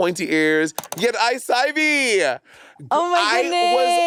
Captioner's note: mouse clicking